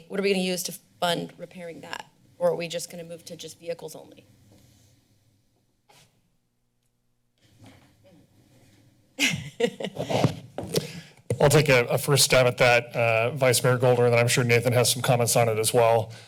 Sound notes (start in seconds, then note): 9.2 laughter